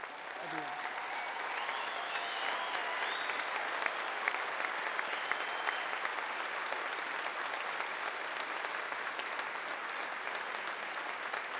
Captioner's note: applause